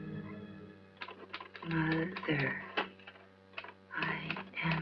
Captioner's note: sound of typewriter and louise voiceover